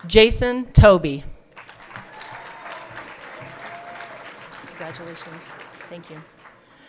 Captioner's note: everyone clapping